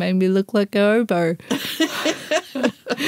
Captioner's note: laughter